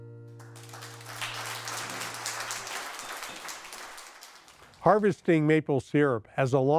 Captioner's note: applause